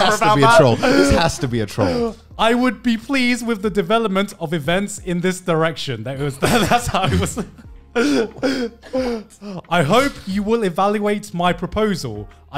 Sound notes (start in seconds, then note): 0.0 laughing; 6.3 laughing